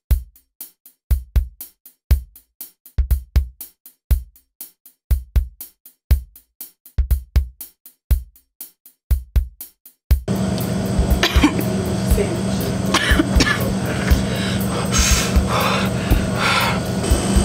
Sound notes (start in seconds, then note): 11.1 Liz coughs; 13.8 panting noises